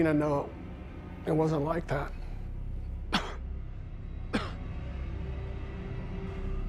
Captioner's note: coughing